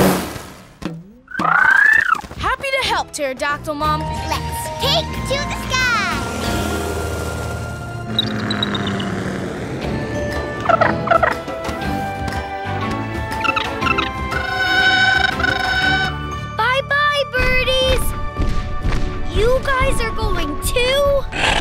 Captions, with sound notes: [squawking] Happy to help, pterodactyl mom. Let's take to the sky. [squawking] [squawking] Bye-bye, birdies. You guys are going too?